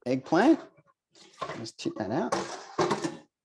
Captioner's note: eggplant splashing; bowl clattering